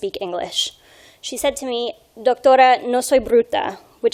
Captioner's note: speaking in foreign language